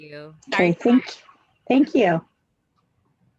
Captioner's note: overlapping chatter